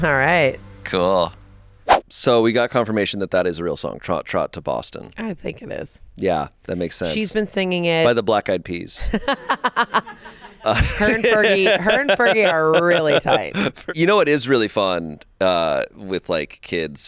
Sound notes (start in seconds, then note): 9.0 laughs